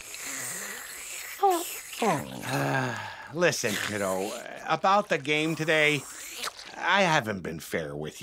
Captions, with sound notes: [sighing] Listen, kiddo, about the game today, I haven't been fair with you.